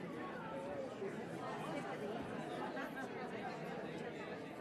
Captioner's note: none